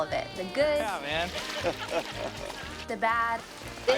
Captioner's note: group laughing